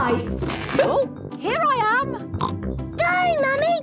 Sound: pops

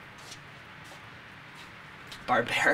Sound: feet shuffling

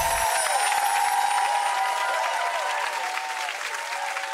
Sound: sparkly tinkles; audience applause

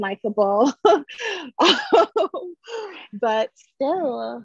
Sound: she laughs

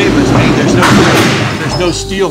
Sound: machine noises

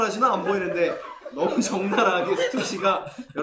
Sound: tries not to laugh

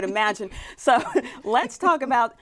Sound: laughing

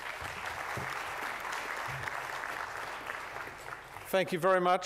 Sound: applause

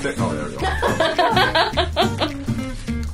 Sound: laughing

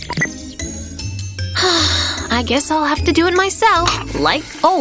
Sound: sigh

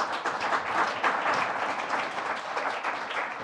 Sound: applause

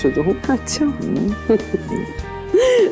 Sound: Ananya laughs

